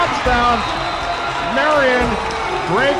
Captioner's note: crowd Cheers!